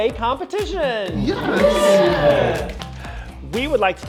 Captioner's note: campers cheering